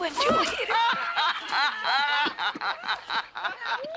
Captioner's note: laughter